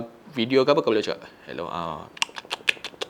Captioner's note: chomp